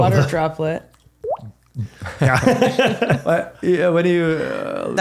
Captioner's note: laughing